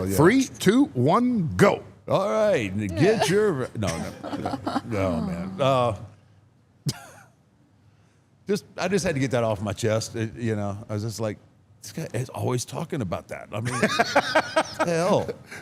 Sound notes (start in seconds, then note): 6.9 chuckles; 13.6 Paul laughs